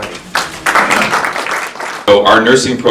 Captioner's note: attendees applauding